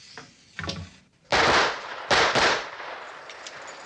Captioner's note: gunfire